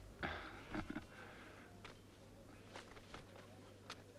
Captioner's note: Pateray chuckles